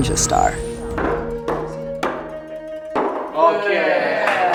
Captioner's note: pounding